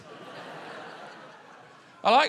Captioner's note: laughter